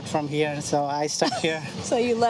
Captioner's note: laughs